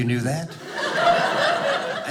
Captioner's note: audience laughing